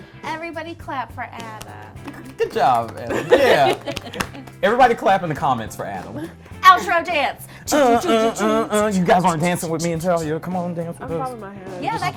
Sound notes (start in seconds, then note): 7.6 humming